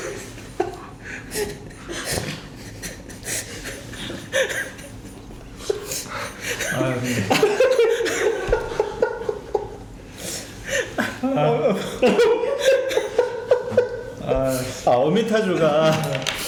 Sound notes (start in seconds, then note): 4.3 laughing; 7.3 laughing; 12.0 laughing